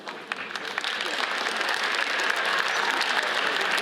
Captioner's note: audience applauds